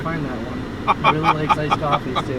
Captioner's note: laughing